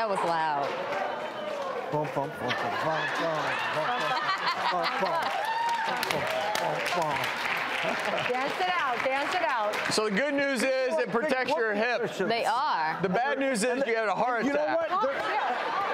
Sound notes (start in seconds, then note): 2.7 audience cheering